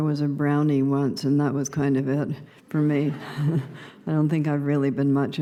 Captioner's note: laughter